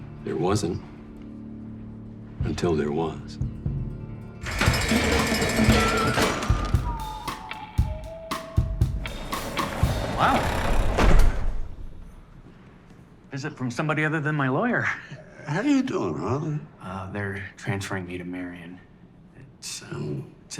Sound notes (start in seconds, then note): 4.4 door rattling; 4.4 buzzer ringing; 7.1 upbeat music; 9.7 door rattling; 10.0 door thuds